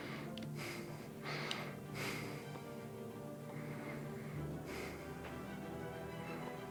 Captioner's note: rough breathing